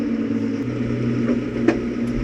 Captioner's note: engine humming continues; logs clunking